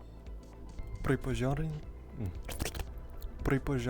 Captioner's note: demonic gurggling noises...O_O